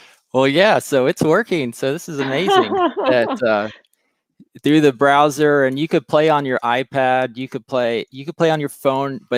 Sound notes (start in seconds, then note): 2.2 laughs